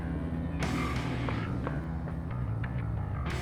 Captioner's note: electric guitar-driven rock plays; engine roars